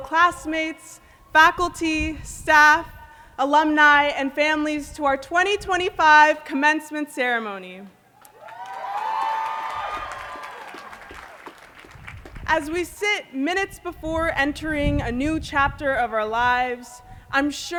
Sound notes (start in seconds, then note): 8.2 cheering and applause